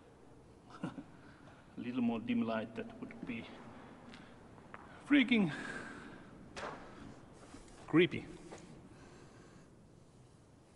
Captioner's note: laughs